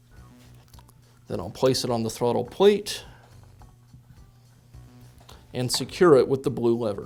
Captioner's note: pause